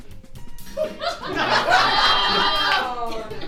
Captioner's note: audience laughs